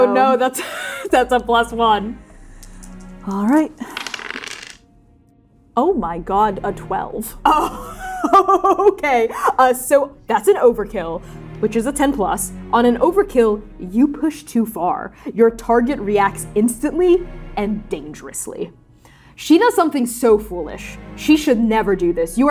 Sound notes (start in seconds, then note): 3.8 dice rolling; 3.8 shaking dice; 7.6 laughing